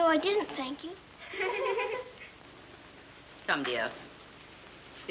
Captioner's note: giggling